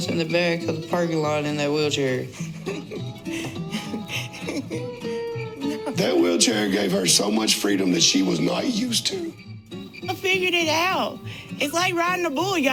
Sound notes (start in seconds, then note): 2.3 Tammy laughs; 2.7 country music